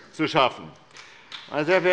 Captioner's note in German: Beifall bei der SPD